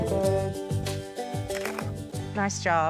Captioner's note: camera clicks